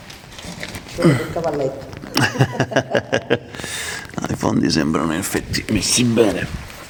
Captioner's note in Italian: risate